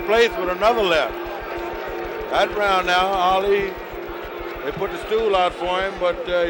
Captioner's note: bell sounds